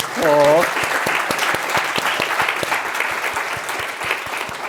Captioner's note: applause